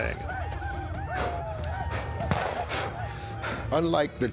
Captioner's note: panting